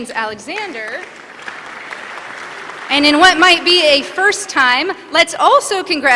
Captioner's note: applause